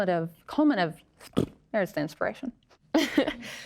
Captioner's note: scoffs; laughs